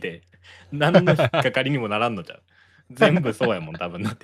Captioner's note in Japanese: 笑い